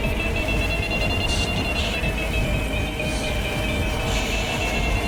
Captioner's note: distorted Voice